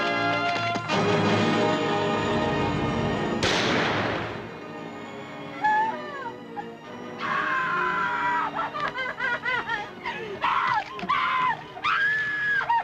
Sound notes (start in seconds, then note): 3.4 gunshot bangs; 8.9 Gwen screaming, sobbing